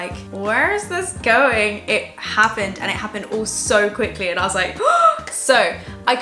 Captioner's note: gasp